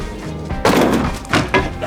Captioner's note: upbeat music; banging